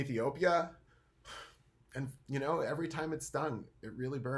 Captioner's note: sighing